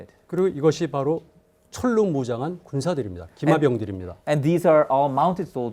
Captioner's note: speaking in Korean